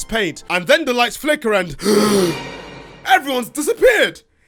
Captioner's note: gasp